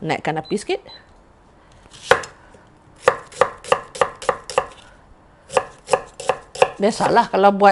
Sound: chopping onions

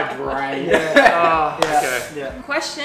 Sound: chuckles

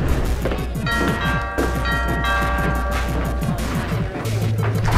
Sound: doorbell ringing

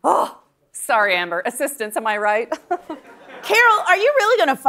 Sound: laughs

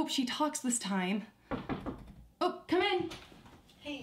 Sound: knock on door

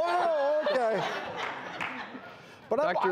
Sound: audience laughs

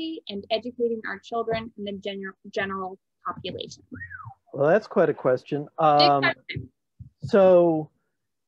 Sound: whistles

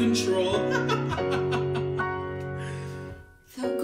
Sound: laughing

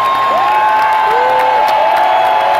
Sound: cheering continues

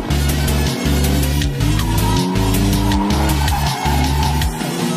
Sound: tires screeching

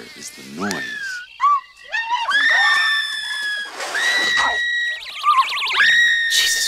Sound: more screaming

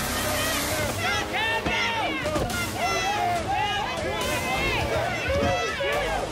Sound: horn blast; intense music; cheering and yelling

